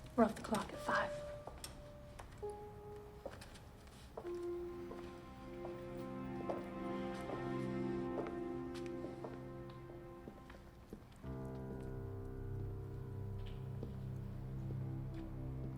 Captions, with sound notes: - We're off the clock at five. (shoes clacking) (gentle tense music)